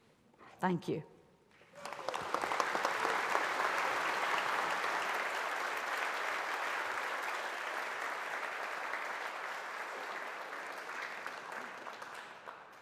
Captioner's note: applause